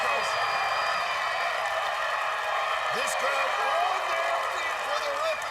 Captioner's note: cheers and applause